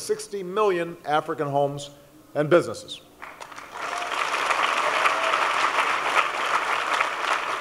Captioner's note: applause